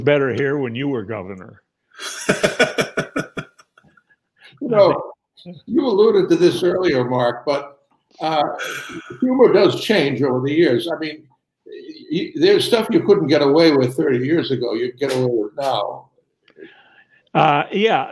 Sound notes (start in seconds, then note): 2.0 laughs